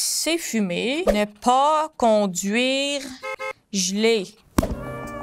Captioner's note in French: coups de klaxon